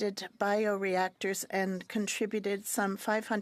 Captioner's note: speaking French